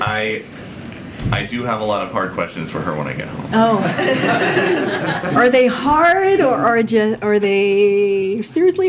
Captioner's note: laughter